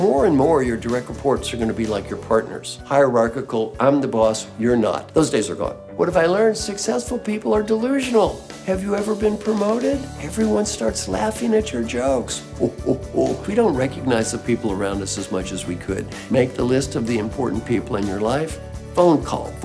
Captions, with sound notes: More and more of your direct reports are going to be like your partners. Hierarchical, I'm the boss, you're not. Those days are gone. What have I learned? Successful people are delusional. Have you ever been promoted? Everyone starts laughing at your jokes [LAUGH]... We don't recognize the people around us as much as we could. Make the list of the important people in your life. Phone call,